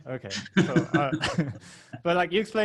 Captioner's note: laughing